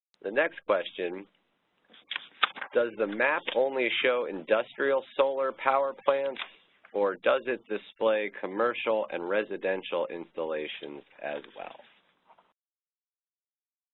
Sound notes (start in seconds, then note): 1.8 pages turning; 6.3 pages turning